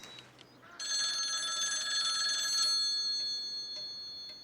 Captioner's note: phone rings